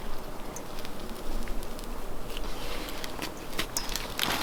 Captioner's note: wind whistling